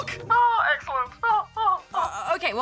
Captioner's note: laughs